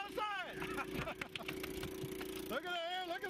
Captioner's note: laughter